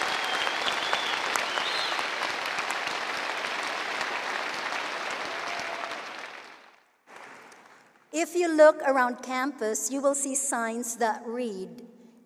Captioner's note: cheering and applause